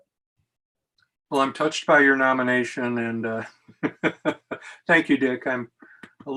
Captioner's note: laughs